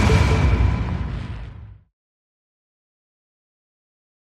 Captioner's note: whooshing